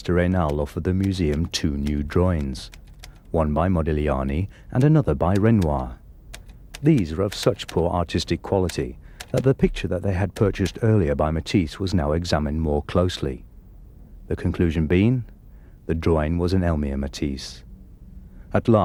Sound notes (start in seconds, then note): none